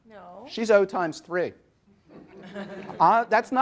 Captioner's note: audience laughs